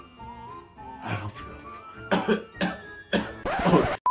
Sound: cough

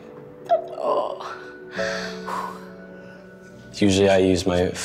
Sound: girl groans

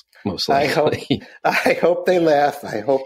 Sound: laughing

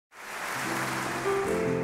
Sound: audience applauding; piano music begins

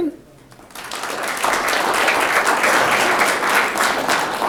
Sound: audience clapping

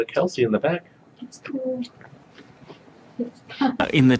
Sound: laughs

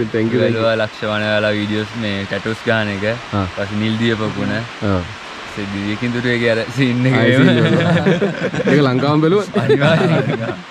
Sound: laughing

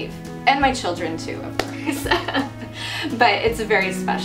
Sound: laughing

